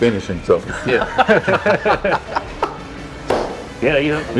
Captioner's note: laughing